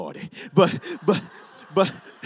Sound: congregation laughs

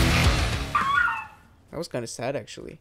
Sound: dog whimpers

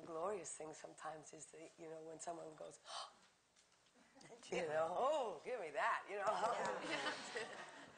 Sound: gasp

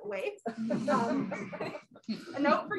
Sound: laughter

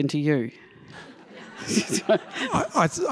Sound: laughter

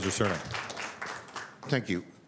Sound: applause

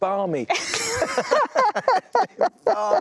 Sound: laughter

